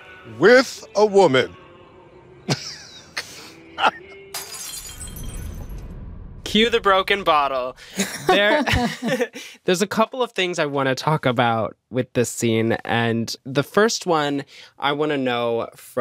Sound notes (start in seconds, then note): 2.5 laughs; 4.3 glass shatters; 7.9 laughter